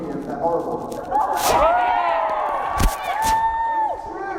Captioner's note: cheers